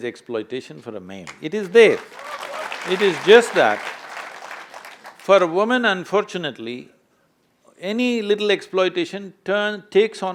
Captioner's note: applause